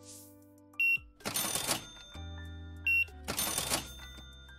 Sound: beeping

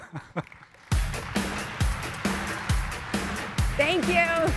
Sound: audience applauding; laughs; upbeat music

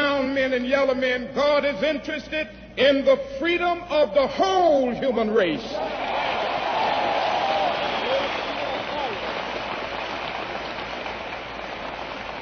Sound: applause

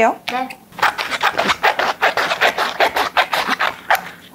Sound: snip snip snip

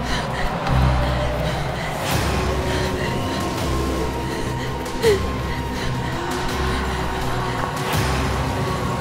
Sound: dramatic suspense music; whispers and howling

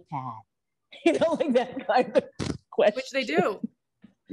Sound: laughing

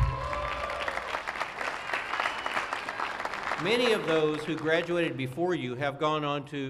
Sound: cheers and applause

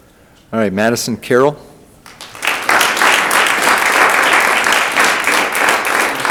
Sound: audience applauding

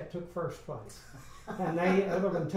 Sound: laughs

